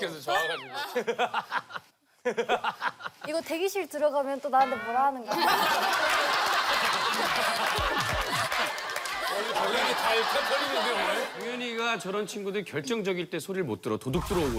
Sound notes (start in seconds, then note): 0.2 laughter; 5.3 laughter